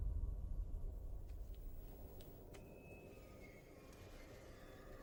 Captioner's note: eerie music continues; fabric rustles